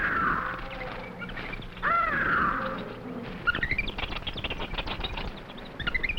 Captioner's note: jungle animals chattering